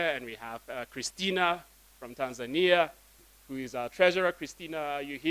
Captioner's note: none